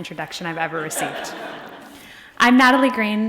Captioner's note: audience laughing